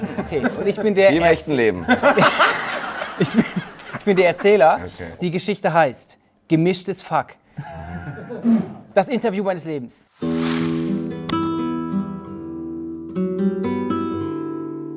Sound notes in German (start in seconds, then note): 7.6 Lachen; 10.2 Ruhige Musik